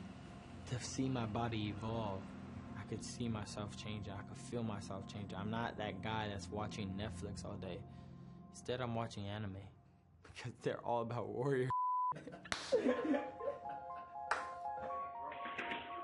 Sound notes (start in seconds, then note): 12.2 laughing